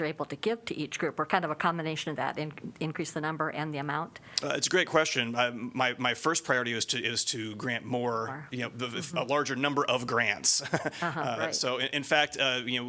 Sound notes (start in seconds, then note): 10.6 laughter